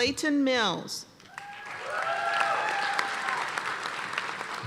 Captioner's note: cheers and applause